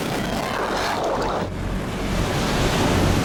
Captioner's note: fire sizzles; water gurgles; waves crash